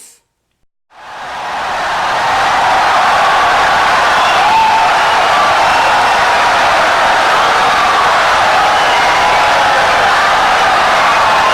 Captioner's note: wild applause and cheering for 17 seconds